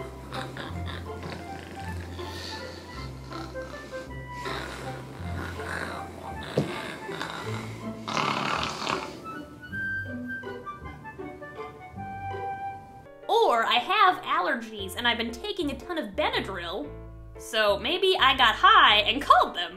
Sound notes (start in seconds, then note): 0.0 snoring; 2.2 more snoring; 5.7 phone falls; 8.2 aggressively Snores